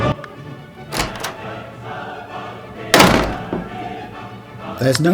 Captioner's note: door opens & slams